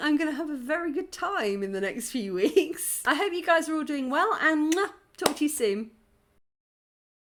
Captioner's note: kiss